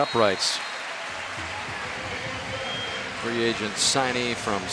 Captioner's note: applause